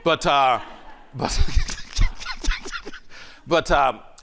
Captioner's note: laughing